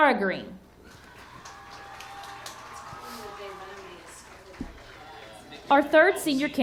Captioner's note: audience cheering and clapping